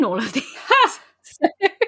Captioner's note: laughing; laughs